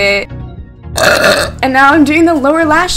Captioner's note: burps